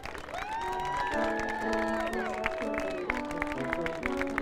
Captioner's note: audience cheering